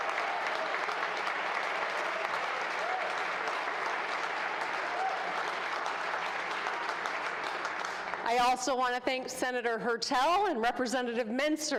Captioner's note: applause